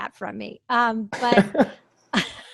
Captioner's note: laughs